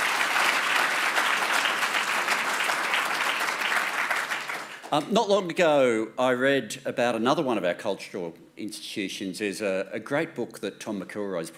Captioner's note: applause